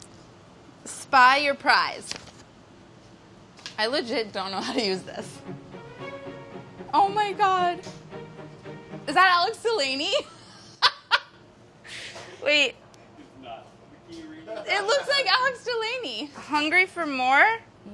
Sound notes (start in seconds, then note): 4.9 upbeat music; 11.5 laughs